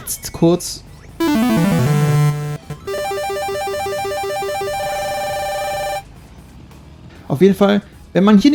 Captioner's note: sound effect